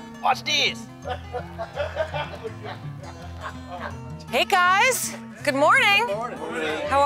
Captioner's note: lalaugughthterer